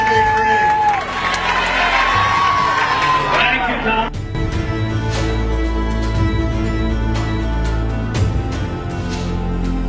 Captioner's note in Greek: χειροκρότημα